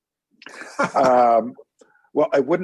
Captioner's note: laughter